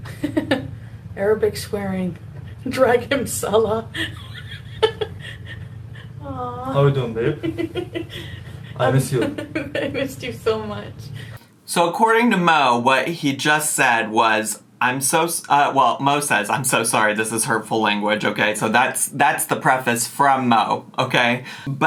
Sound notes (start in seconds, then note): 0.4 laughing; 3.9 laughing